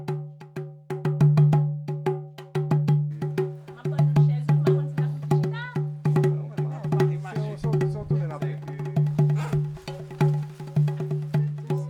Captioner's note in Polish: głosy w tle